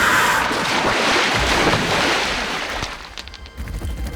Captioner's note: splashing; whirring